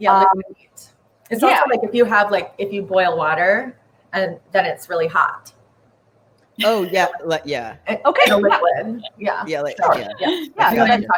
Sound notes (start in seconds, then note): 8.0 laughs